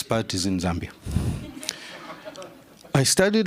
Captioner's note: laughter